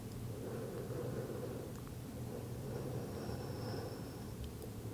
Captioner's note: breathing deeply